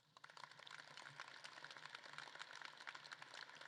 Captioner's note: audience claps